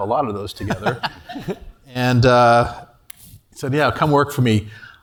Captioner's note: laugh